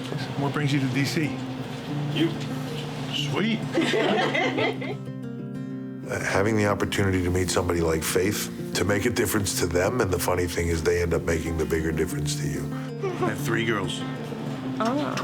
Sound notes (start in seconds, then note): 6.5 laugh